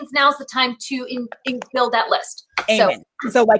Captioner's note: claps